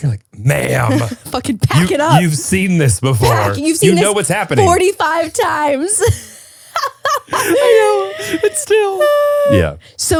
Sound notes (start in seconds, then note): 6.0 both laughing